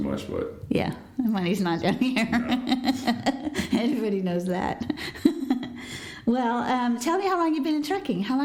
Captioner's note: laughter